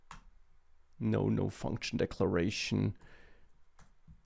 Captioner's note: keyboard clicking